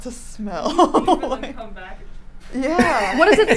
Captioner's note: laughs; mumbles